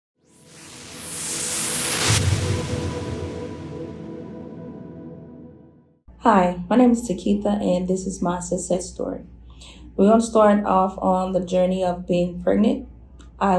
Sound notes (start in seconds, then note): 0.4 whooshing